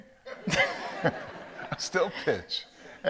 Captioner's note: audience laughs